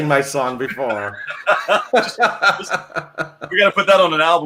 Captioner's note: laughing